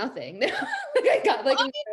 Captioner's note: laughs